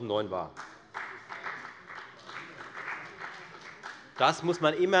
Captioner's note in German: Beifall bei der FDP